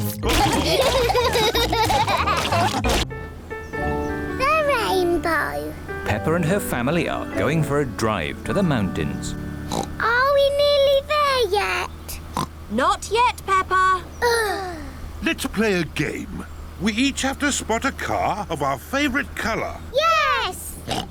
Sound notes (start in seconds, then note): 0.4 laughter; 9.6 oinks; 12.3 oinks; 14.2 both sigh; 20.8 oinks